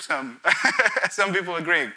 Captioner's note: laughs